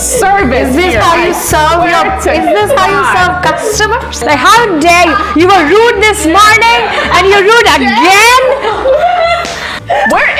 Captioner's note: laughter